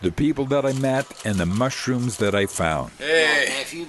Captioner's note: sewing machine stitching